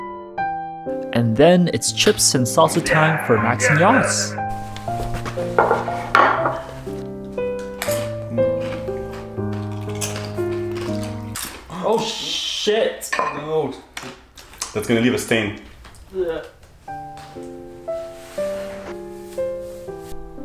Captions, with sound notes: And then it's chips and salsa time for Max and Yos. (crunching) (crunching) Oh, shit! Oh no. - That's gonna leave a stain. (classical piano music)